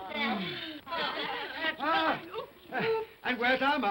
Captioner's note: giggling